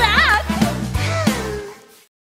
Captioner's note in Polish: oddycha z ulgą